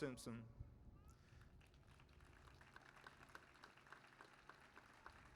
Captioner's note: applause